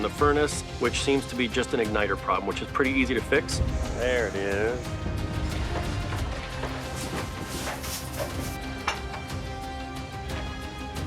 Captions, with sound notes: which seems to be just an igniter problem, which is pretty easy to fix. There it is. (dramatic music) (objects clattering)